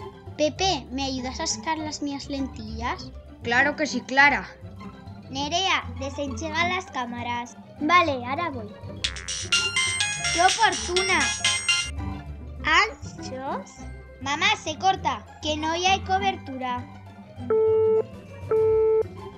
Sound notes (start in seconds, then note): 9.0 A cell phone rings